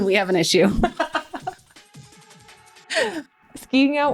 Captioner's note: laughing